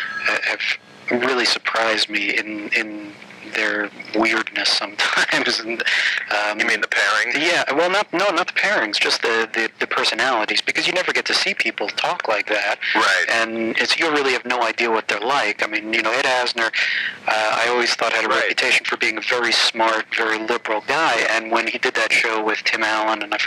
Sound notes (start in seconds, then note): 4.1 laughing